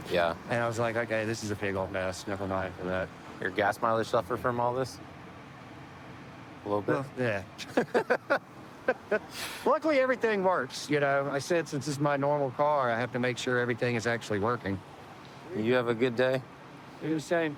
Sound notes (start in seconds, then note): 7.6 laughter